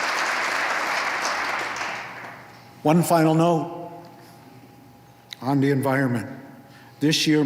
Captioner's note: applause